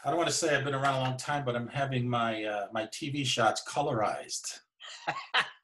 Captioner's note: laughing